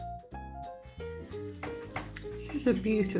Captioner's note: sizzling